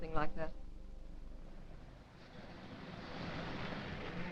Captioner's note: traffic humming; suspenseful music